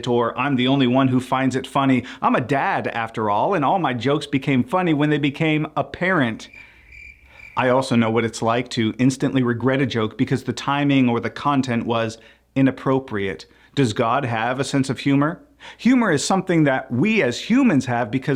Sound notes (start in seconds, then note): 6.4 chirp chirp